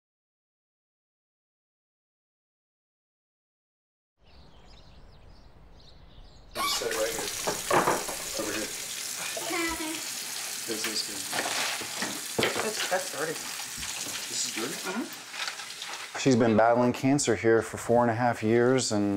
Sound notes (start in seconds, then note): 4.2 birds chirping; 6.5 water running